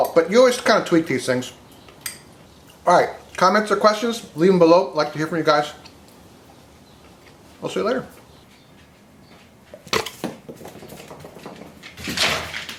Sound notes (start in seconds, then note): 9.8 dog chomps at the air; 9.8 carrot thuds against floor; 11.6 shuffling; 11.6 thud